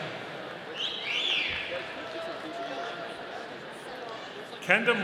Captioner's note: audience cheering